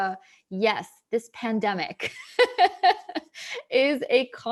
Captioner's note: laughing